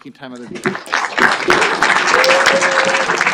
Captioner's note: applause